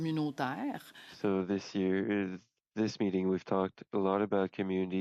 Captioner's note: speaking French